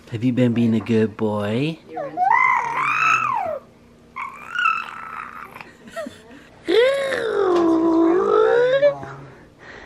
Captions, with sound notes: Have you been being a good boy? (gurgling)